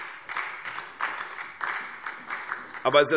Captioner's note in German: Beifall SPD